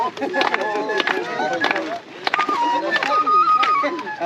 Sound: applause

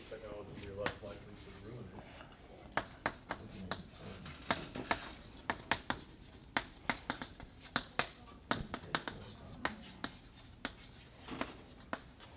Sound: chalkboard writing

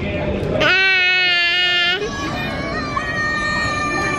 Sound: baby yells; kids yelling

